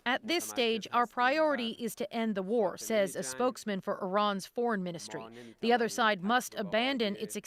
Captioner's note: speaking alternate language